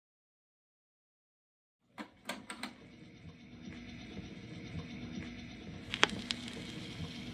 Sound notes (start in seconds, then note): 2.0 record player clicks; 5.8 record crackles